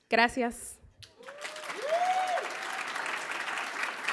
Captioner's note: applause